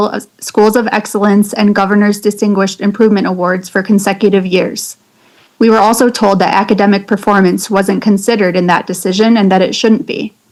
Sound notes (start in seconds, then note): none